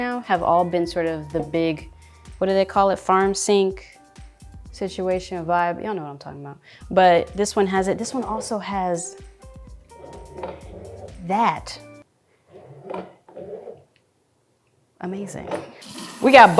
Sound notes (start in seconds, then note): 12.8 water tap squeaking